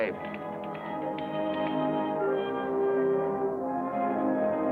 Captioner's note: typing